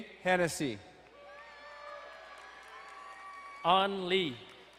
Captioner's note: crowd cheering and applauding